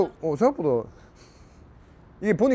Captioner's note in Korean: 킁킁킁